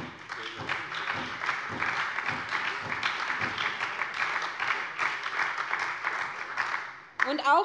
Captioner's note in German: Beifall bei der SPD